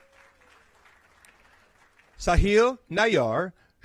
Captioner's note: applause